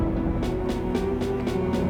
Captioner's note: rolling thunder